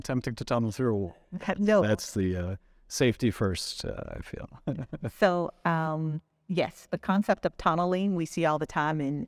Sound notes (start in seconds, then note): 4.5 chuckling